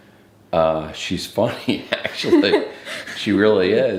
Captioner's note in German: beide lachen